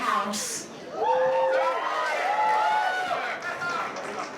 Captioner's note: cheers, applause